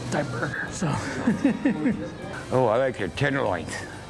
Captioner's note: laughs